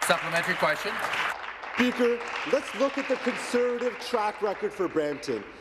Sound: applause

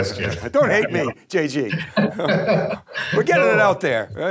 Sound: both laugh

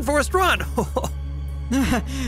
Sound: panting; laughs

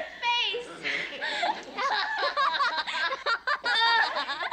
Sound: laughing

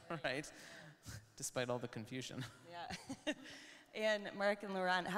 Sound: chuckles

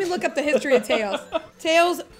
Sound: laughing

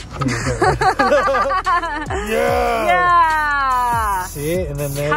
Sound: laugh

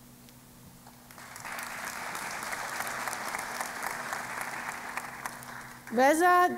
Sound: applause

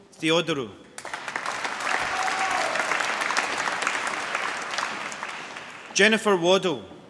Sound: applause

